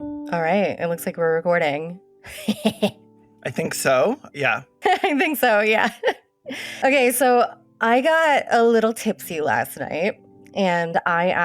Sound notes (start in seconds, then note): 4.8 laughs